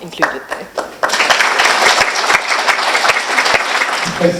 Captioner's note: applause